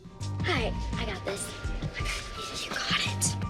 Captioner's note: whispering